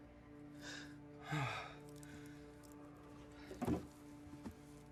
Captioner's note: Patrick sighs